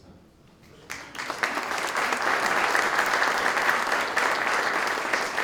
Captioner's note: applause